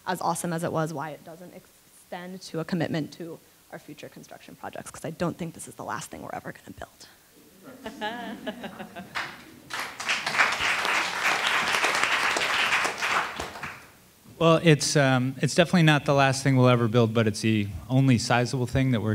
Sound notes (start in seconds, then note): 7.4 laughing; 10.0 attendees applauding